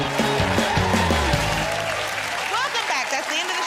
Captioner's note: cheers and applause